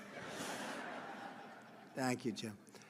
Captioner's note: laughter